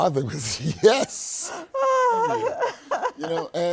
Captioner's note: laughter